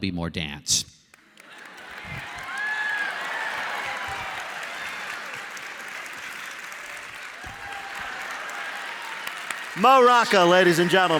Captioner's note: cheers and applause